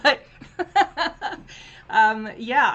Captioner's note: laughs